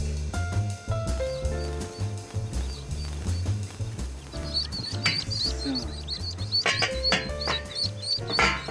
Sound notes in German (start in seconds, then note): 4.6 Piepsen wird aufgeregter; 6.4 Entspannte Jazzmusik